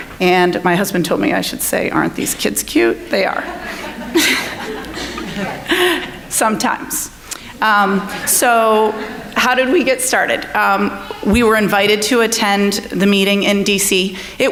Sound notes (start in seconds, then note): 3.2 audience laughing; 3.3 laughing